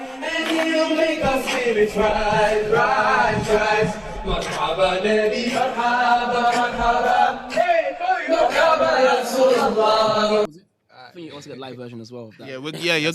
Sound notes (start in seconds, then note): 3.8 non-english